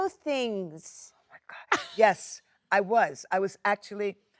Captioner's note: Jennifer chuckles